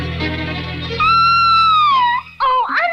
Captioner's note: Sweet Polly Purebred Screams